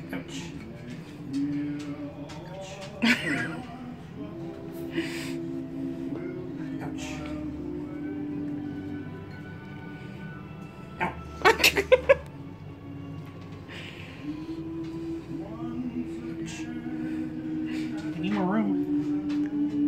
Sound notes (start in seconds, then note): 11.0 laughing